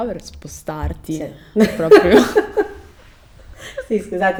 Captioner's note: laughs